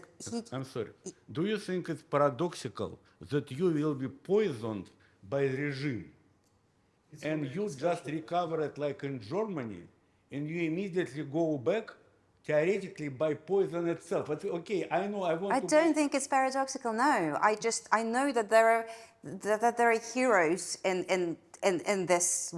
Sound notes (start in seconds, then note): 7.3 speaking faintly